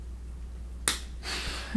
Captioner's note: clap